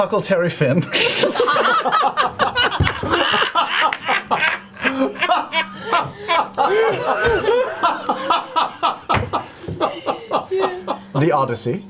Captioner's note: all laugh